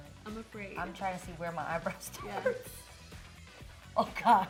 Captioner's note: laughs